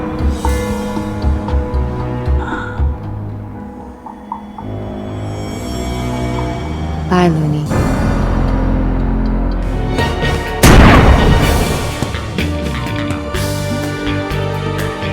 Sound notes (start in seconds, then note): 9.9 dramatic orchestral music; 10.6 gun firing